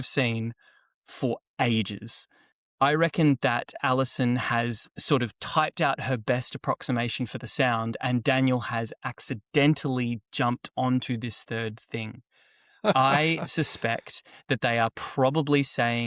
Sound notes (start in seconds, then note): 12.8 laughs